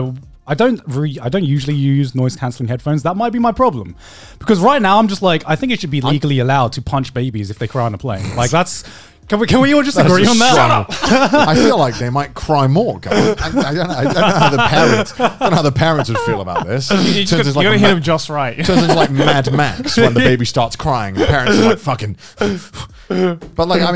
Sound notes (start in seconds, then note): 10.0 everyone laughs